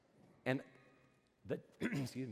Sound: clears throat

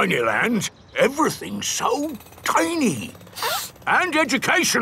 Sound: sniffs

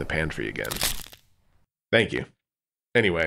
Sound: loud CRACK. Squealing stops

